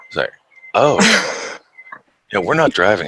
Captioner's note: laughs